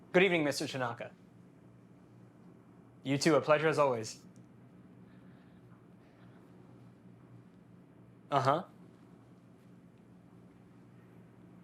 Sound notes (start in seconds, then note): none